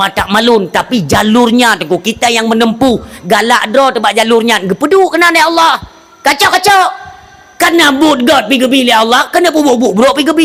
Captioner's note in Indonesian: berteriak